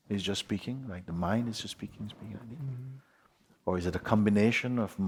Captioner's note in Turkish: mırıldanma sesi yapar